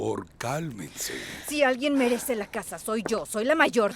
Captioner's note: Esperanza suspira